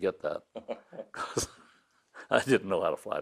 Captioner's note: laughing